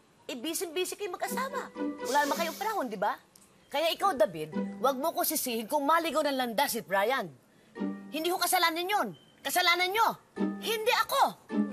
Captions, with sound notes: You're always busy. -[sighs] -You don't have time. David, don't blame me if Bryan goes astray. That's not my fault. That's your fault, not mine.